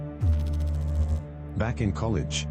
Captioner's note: electrical noise